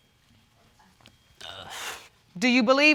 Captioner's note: sighs